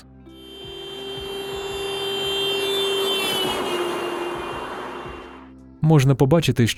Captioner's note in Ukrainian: Звук автомобіля